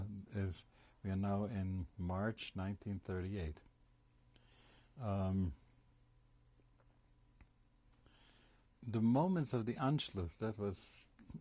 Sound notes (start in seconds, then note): 3.0 pauses for 6 seconds